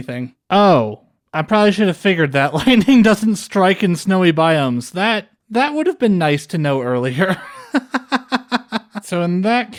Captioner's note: laughter